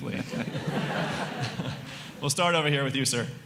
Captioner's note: chuckles